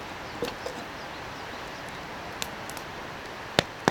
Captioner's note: birds singing